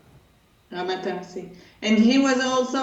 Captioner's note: Hebrew